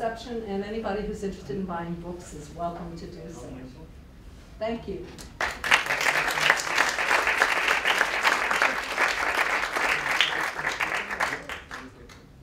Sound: applause

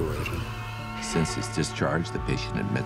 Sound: cars honking

